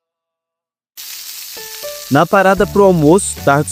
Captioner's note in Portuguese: Barulho de fritura